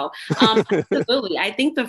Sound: laughter

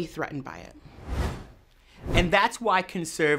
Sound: whooshes

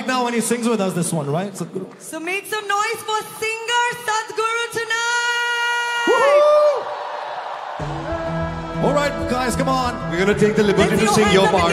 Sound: cheering/Applause

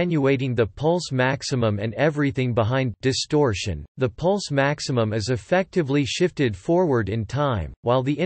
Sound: distortion

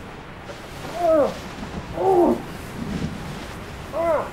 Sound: groaning; rain pattering

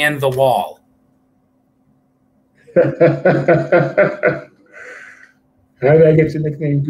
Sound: laughter

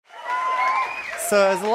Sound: cheers

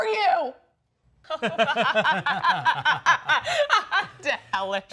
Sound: laughing

